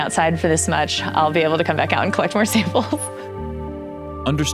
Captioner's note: laughing